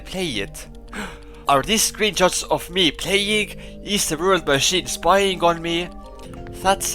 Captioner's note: gasp